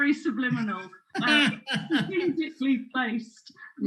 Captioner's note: he laughs